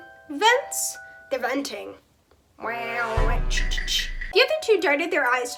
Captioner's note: among us sounds